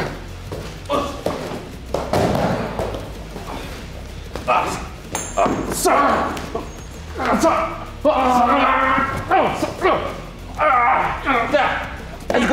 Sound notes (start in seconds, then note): 1.9 thud; 5.2 groans